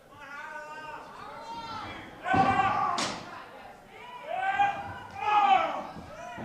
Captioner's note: screams